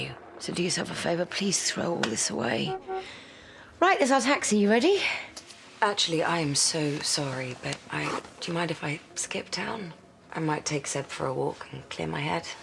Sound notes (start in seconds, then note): 2.5 horn honks